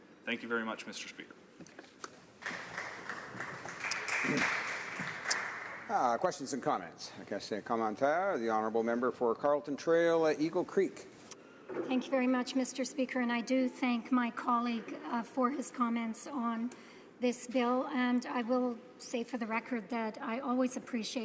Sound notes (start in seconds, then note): 7.1 some Applause; 11.6 speaking French